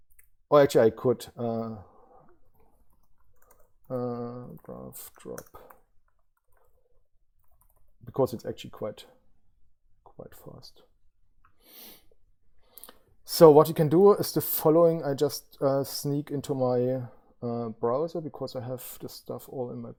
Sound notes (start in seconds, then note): 2.2 keyboard typing